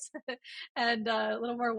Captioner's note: laughs